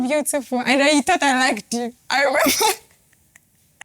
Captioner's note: laughs